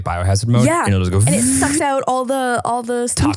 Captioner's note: imitates air whirring